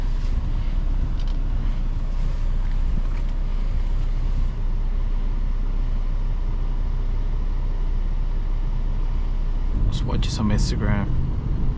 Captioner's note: car engine